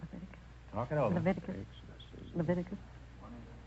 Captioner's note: whispering